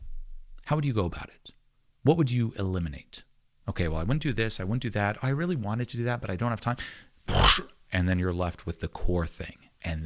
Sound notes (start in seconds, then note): 7.3 breath whooshing